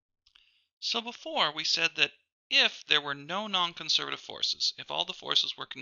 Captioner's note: voiceover